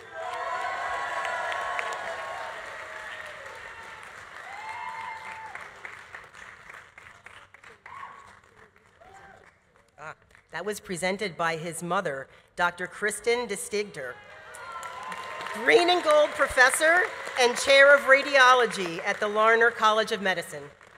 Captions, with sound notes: (audience applauding) (audience cheering) Ah, that was presented by his mother, Dr. Kristen K. DeStigter, (audience applauding) (audience cheering) green and gold professor and Chair of Radiology at the Larner College of Medicine.